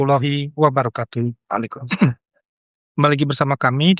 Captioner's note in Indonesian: berdehem